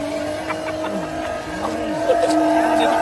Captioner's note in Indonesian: Tertawa